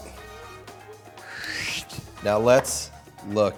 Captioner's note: whooshes loudly